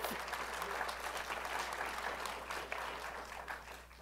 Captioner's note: applause